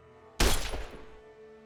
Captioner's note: glass Breaking; gunshot